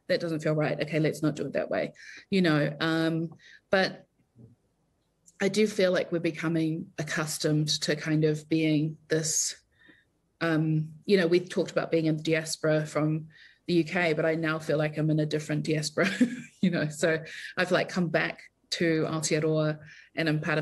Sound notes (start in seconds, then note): 16.8 chuckles